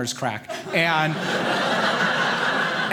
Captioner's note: audience laughing